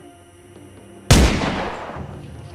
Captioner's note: gunshot booms